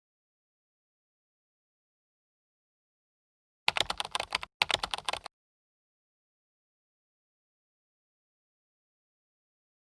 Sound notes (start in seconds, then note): 3.6 typing